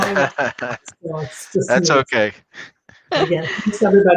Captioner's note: laughter